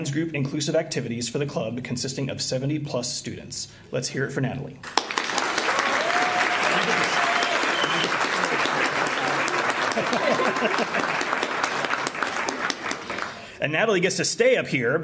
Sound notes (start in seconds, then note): 4.8 applause